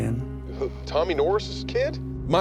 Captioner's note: on phone